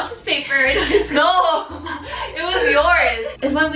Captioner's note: laughing